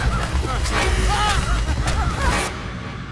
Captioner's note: screaming